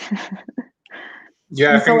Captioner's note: chuckles